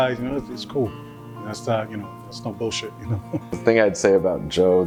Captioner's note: laughs